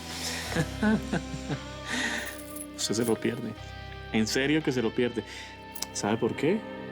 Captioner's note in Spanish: Risas